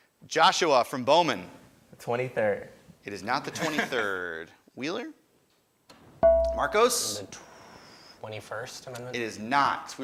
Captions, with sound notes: Joshua from Bowman. >> The 23rd. >> It is not the 23rd. Wheeler? (ding) Marcos. >> 21st amendment? >> Is not.